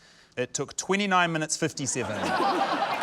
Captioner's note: laughter